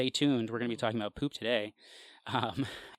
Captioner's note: laughs